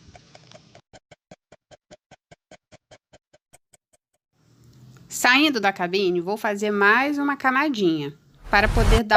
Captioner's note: laugh